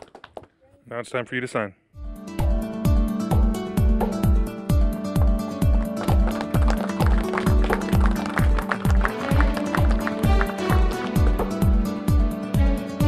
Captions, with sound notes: - Now it's time for you to sign. (inspirational upbeat music) (clapping)